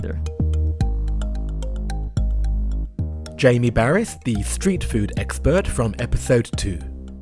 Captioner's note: voiceover